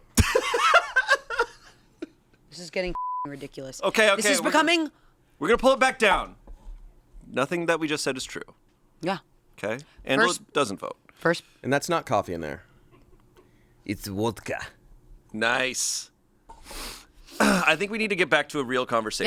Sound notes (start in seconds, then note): 0.2 laughs; 2.9 beep